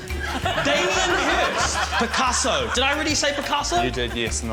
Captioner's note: laughter; laughs